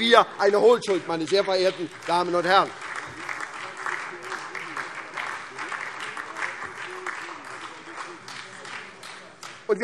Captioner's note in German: Beifall SPD, Freie Demokraten und DIE LINKE